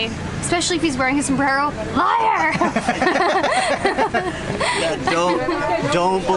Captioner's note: laughter